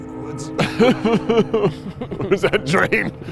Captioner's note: laughs